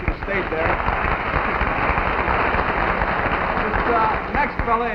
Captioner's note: audience clapping